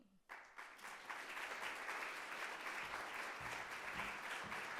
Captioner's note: audience applauding